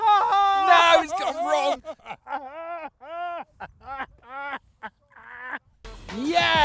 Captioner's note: laughs; continues laughing